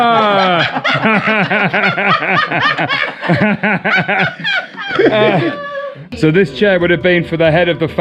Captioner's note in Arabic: يضحك